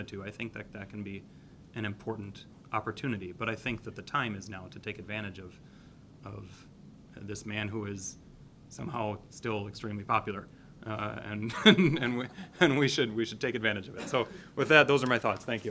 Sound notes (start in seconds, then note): 11.4 laughs